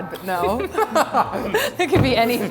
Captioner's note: laughing